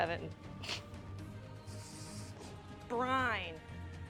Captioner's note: soft Fart